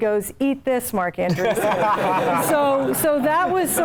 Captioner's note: laugh